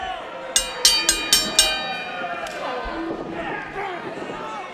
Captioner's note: ring bell ringing